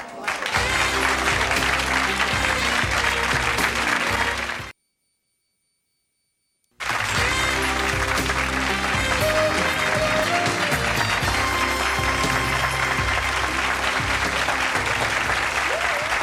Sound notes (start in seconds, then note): 0.0 audience applauding; 2.4 jazzy music; 8.6 audience applauding